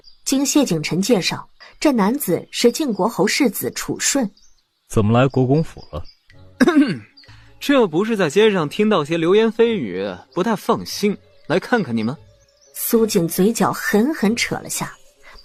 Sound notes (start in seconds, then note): 6.6 cough